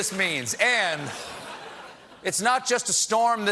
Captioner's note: laughter